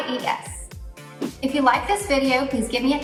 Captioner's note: air whooshes